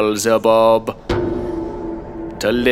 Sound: bell tolls

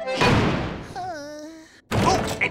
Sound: sighing

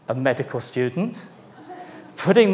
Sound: audience laughs

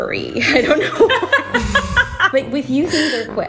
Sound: both laughing

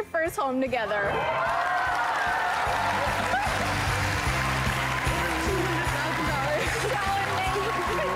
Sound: applause

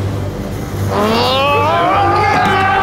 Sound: roaring

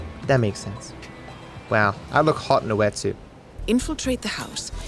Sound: none

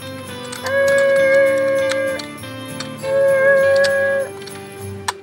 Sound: mimics machine whirring

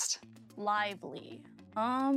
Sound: none

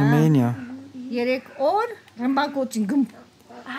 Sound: speaking Armenian

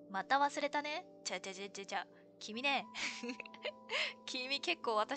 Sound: laughs

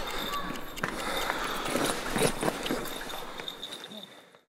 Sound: belabored steps

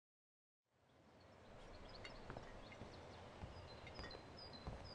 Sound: birds chirping

